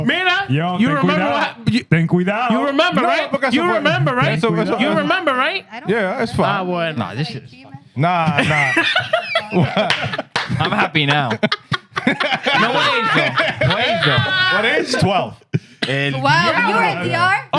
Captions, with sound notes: Meena, you remember what happened? Think we down. You remember, right? You remember, right? Think we down. You remember, right? Yeah, that's fine. Nah, this shit is fine. Nah, nah. (Laughing) I'm happy now. (Laughing) No one is though. What is though? What is? 12. And-- You were in DR?